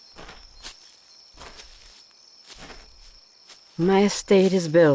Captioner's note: footsteps